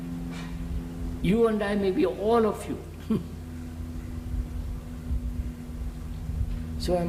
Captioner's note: laughs